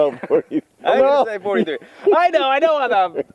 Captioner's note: laughs